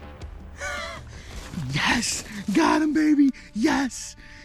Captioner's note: laughs